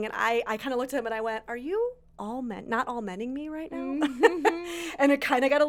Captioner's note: laughs